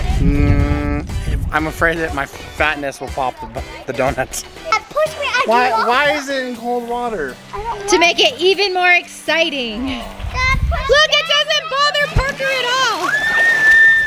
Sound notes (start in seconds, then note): 10.3 groans; 13.0 shrieking